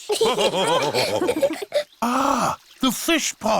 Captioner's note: all laughing